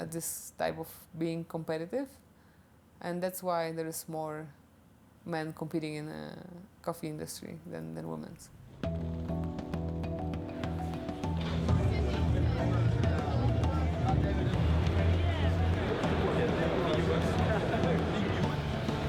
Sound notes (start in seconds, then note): 10.8 people chattering; 12.1 soft music